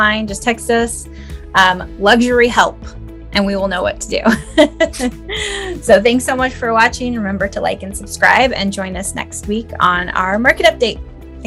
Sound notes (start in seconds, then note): 4.3 chuckles